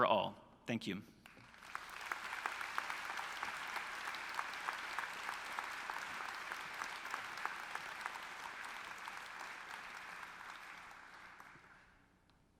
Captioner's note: applause